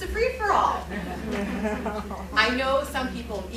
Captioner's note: laughter